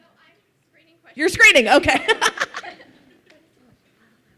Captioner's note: laughs